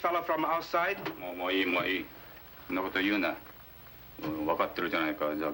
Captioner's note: speaking foreign language